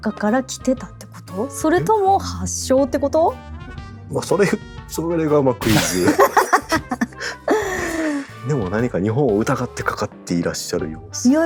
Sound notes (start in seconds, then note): 5.8 laughs